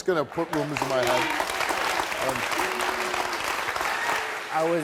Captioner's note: audience clapping